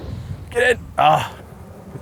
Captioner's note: groans